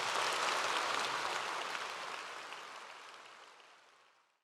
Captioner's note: audience clapping